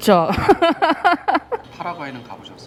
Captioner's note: Laughs